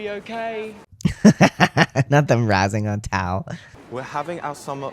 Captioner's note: laugh